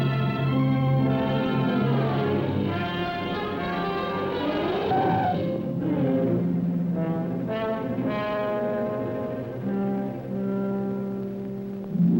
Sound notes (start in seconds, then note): 4.3 brakes and tires screech; 6.8 suspenseful music